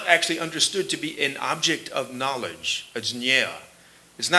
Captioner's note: sanskrit